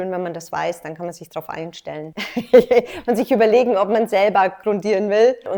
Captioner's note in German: lacht